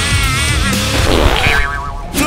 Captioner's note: fart